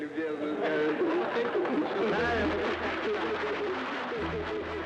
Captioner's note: crowd laughing, applauding